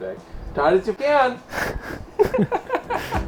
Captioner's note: laughter